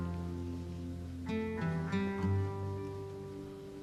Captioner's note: none